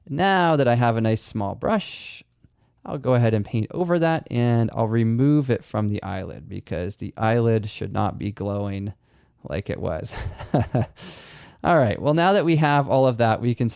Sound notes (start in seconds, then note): 10.1 chuckles